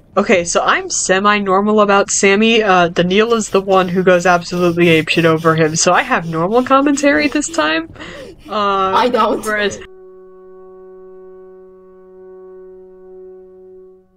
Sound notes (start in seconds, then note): 3.2 over heavily breathing